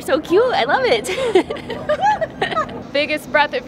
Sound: audible laughing

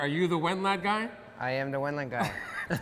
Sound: laughs

